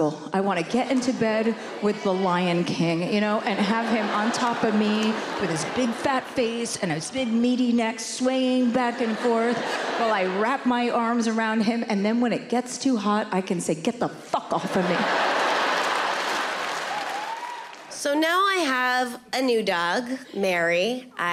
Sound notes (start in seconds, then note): 14.5 audience laughing